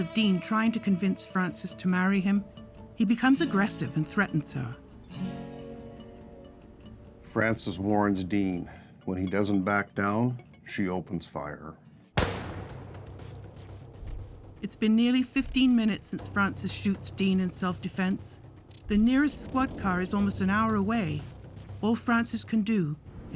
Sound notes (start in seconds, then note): 12.2 gun shot fires